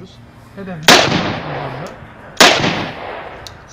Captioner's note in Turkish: silah sesleri